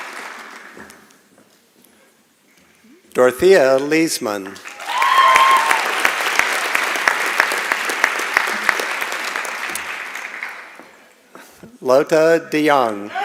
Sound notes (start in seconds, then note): 0.0 applause and Cheering; 4.6 applause and Cheering